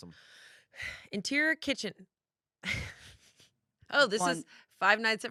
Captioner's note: laughs